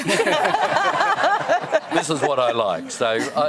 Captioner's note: laughter